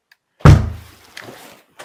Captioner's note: loud thud